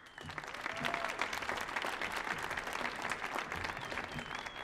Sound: audience applauding

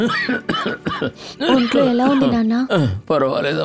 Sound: coughs

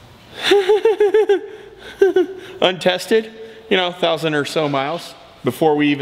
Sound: nervous laughter

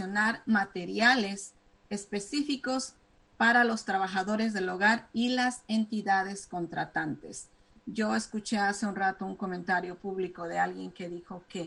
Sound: speaking spanish

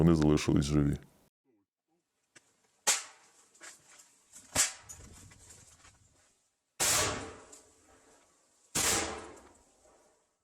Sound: the sounds of footsteps and explosions

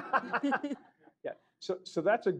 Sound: laughter

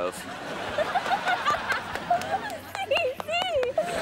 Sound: laughing

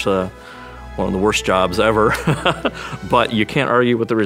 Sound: laughs

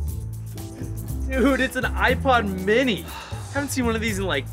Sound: sighs

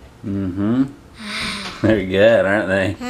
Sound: sighs

